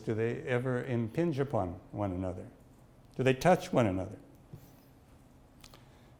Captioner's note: none